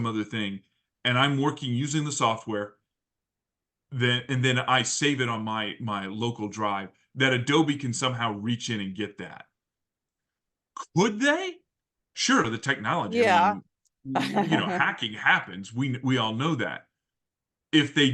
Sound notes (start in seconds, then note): 14.1 laugh